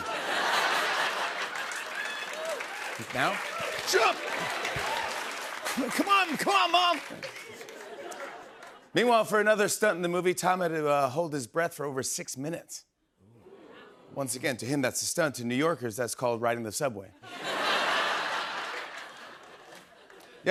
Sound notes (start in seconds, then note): 0.0 laughter; 12.9 audience oohs; 17.1 laughter